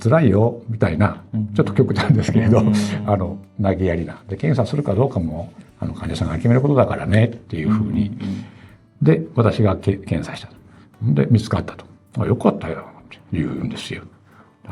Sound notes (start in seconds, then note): 5.1 laughs